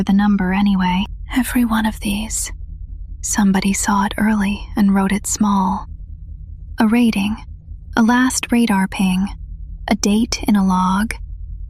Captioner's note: whispers